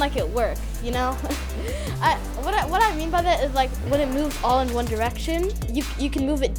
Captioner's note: chuckle